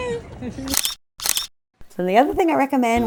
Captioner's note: camera clicking